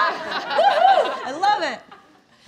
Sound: laughing

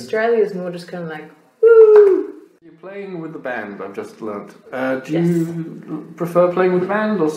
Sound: unenthusiastically

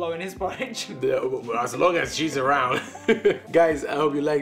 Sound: they laugh

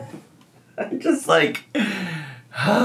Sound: sighing

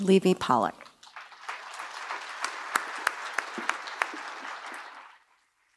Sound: applause

